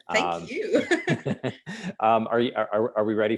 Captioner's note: laughter